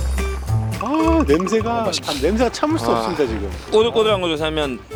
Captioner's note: tapping his feet excitedly